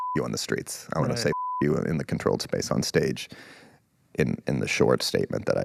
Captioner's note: beep